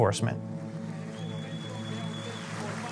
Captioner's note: cheers and applause